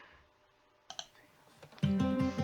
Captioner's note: click